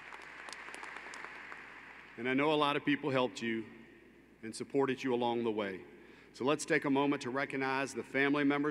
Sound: applause

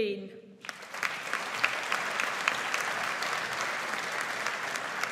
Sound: audience applauds

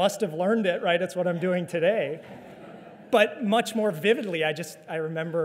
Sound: audience laughter

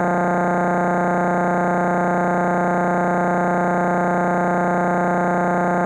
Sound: electronic buzzing continues

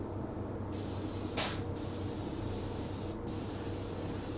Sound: spray paint sprays

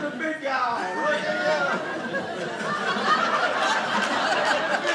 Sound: audience laughing

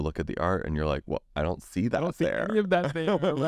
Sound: laughs

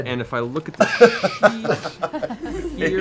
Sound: laughing

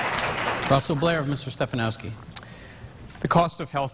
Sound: applause

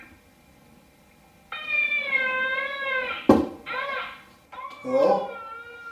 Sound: baby crying

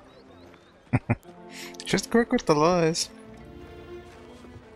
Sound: chuckling

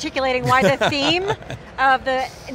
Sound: laughs

